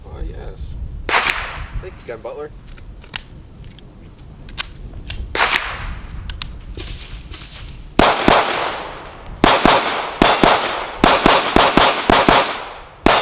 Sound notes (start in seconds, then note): 4.4 clicking; 8.0 gunshots